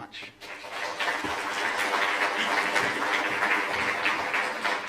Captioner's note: applause